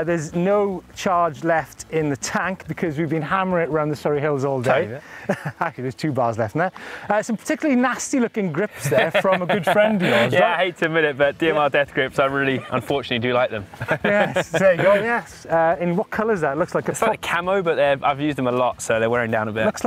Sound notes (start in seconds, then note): 5.0 laughs; 8.7 laughs; 13.6 laughs